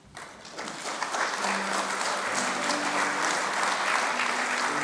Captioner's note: audience clapping